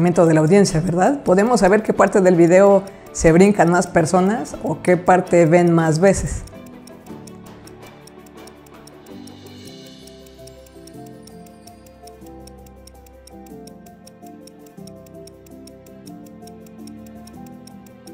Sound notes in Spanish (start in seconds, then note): 10.8 timer